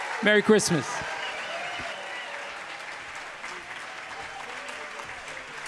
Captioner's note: audience applauding; audience cheering